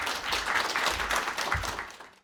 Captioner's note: applause